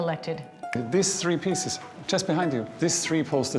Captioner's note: snaps fingers